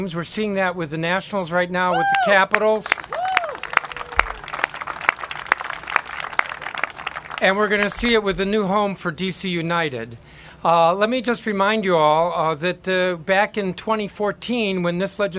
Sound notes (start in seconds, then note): 1.9 cheers and applause; 5.9 applause